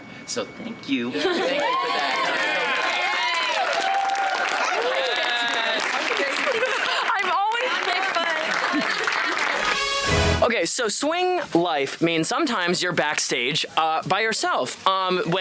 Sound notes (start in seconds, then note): 1.2 company cheering and applauding